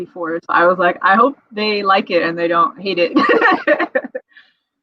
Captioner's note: laughs